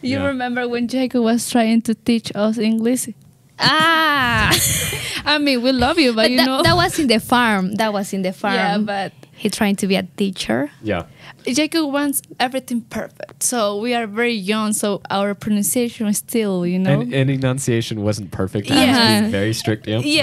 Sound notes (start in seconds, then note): 5.9 laughs